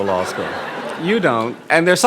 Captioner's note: audience laughing